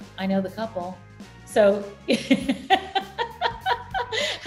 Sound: laughing

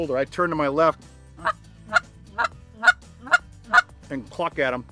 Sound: goose call squawking

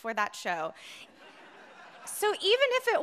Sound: audience laughing

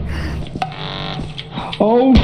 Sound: Turret blaring

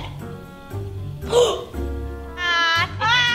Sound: gasps; both laugh

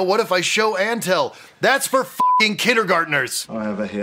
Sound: beeping

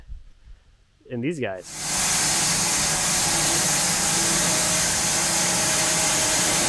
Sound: bandsaw mill whirring

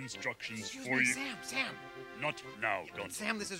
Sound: whispers

